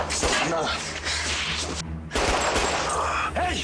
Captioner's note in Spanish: Disparos